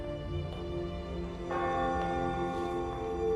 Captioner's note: church bell ringing